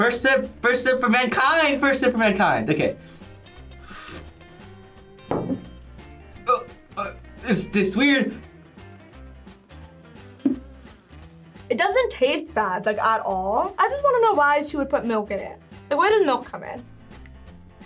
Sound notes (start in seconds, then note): 6.4 gags